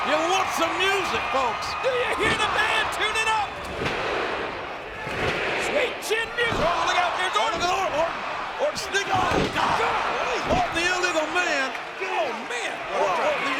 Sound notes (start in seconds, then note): 2.0 feet thudding; 6.4 feet thudding; 9.1 body thudding